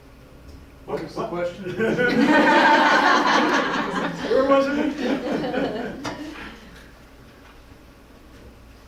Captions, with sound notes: What was the question? (Audience laughter) Where was it?